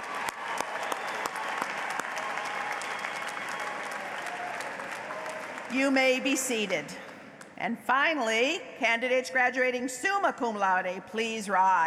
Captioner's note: applause